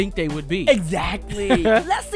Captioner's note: laughs